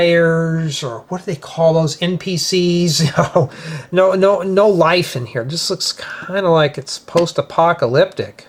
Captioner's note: laughter